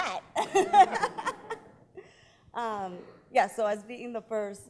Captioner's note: laughing